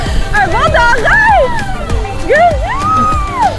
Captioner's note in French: cris de joie